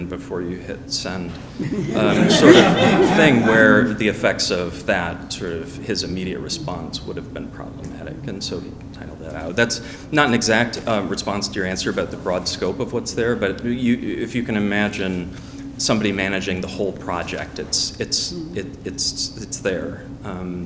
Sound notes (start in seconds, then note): 1.3 audience laughing